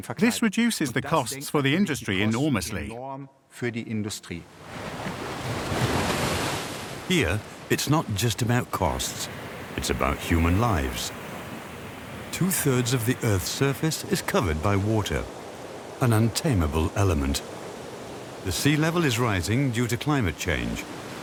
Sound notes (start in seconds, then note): 4.8 waves crashing